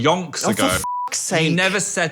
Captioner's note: beep